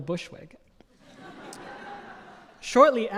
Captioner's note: audience laughing